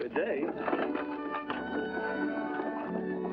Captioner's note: carriage rattling along